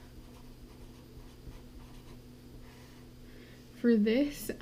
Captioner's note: pen scratching